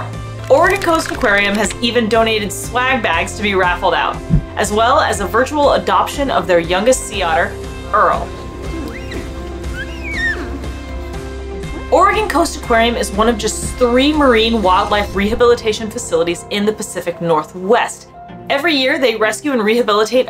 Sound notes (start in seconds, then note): 8.2 Earle vocalizing; 8.4 background music